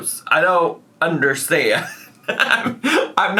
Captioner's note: laughs